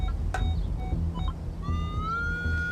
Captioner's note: beeping